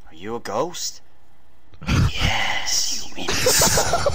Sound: same Voice Actor but with Ghosty Effects; laughs over dialogue

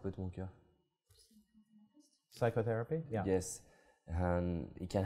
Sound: foreign dialogue

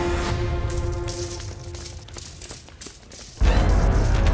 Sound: coins clinking; sinister music playing

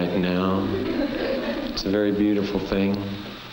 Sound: laughing

